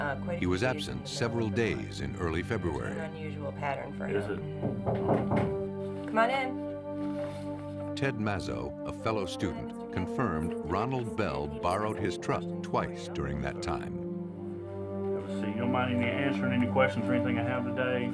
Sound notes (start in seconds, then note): 4.6 knocking